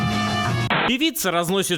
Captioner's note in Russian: помехи